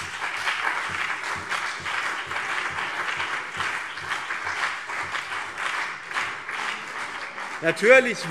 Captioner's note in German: Beifall BÜNDNIS 90/DIE GRÜNEN und CDU